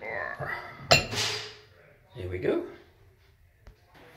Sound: grunts

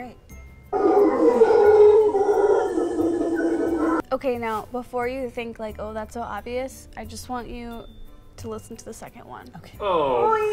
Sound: growling

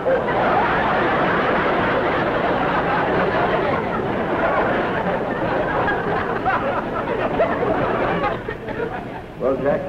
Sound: laughter

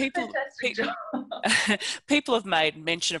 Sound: laughter

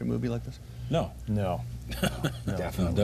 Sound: laughter

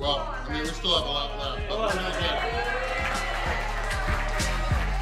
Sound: crowd cheering

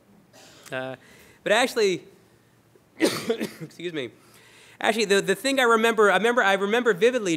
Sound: coughs

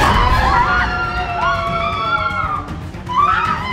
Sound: dramatic music; all yelling

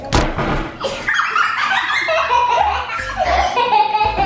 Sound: laughing

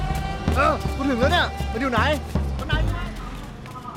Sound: Malay Language

